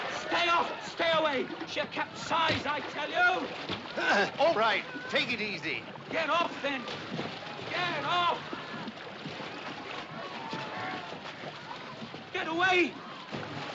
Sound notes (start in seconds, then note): 3.9 Grunhados